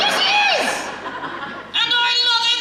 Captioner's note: audience Laughs